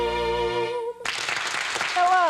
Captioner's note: crowd applauding